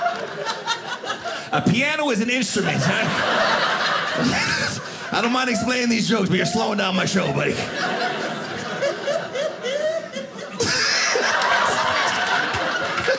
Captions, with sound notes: A piano is an instrument. I don't mind explaining these jokes, but you're slowing down my show, buddy. (audience laughing)